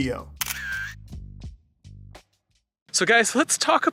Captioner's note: camera shutter clicks